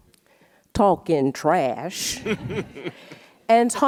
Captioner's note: audience laughs